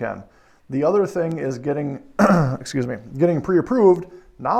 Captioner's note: clears throat